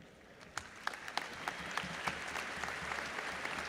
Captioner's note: audience applauds